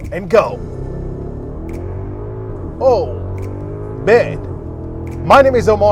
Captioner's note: vehicle engine revving